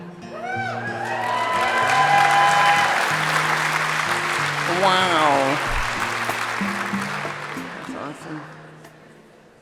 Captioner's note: applause